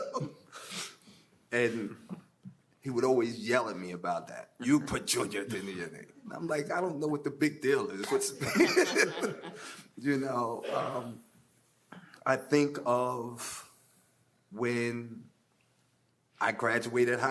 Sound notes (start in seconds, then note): 8.0 panelists laughing